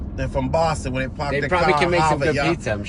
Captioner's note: imitating New England accent